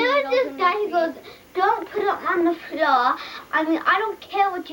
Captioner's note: speaking with accent